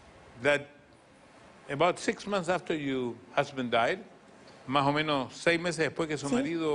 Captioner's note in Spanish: habla en ingles